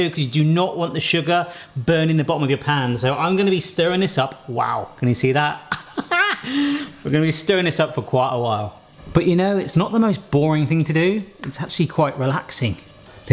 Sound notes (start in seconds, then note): 5.7 laughing